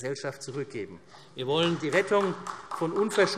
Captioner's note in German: Beifall